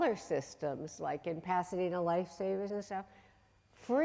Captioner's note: voice muffled